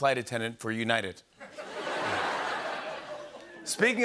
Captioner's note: laughter